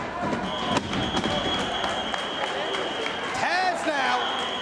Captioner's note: spectators cheering and applauding